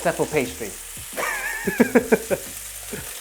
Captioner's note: laughs